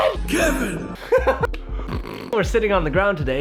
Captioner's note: laughing